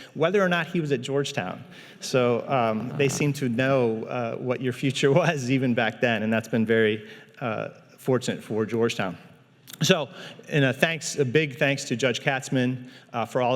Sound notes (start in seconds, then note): none